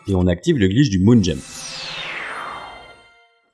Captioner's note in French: bruit de téléportation